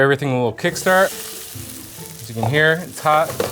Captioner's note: potatoes sizzle